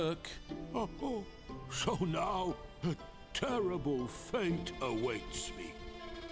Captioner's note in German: schluchz